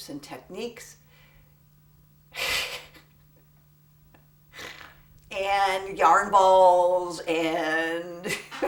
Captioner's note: laughter